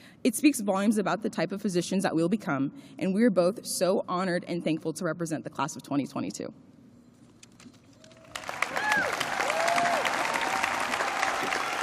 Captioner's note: applause